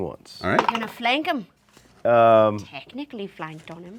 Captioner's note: dice clatter